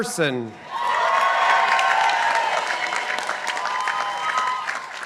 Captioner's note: participants applauding